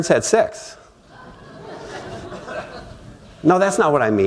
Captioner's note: laughter